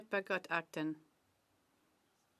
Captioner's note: speaking French